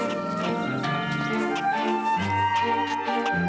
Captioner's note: church bell ringing